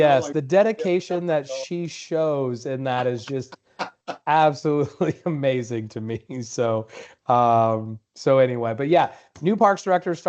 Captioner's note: laughter